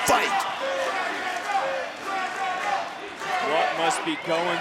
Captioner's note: crowd chants "Dragunov"